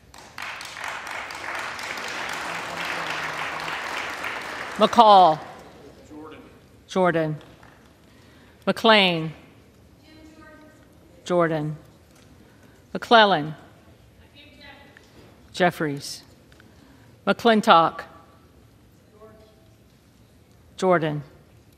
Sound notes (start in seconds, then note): 5.1 applause